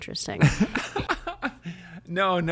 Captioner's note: laughs